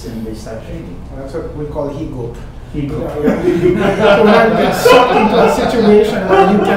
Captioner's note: everyone laughing